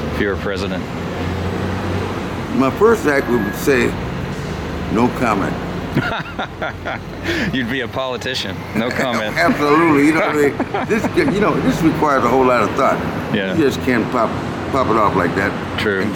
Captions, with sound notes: My first act would be to say, “no comment” [Interviewer, laughing] You’d be a politician — “no comment” Absolutely! You know what I mean? You know, this requires a whole lot of thought, you can’t just pop it off like that